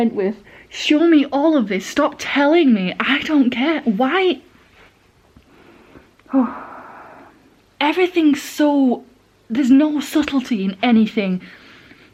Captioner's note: sigh